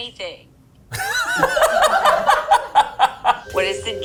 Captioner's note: all laughing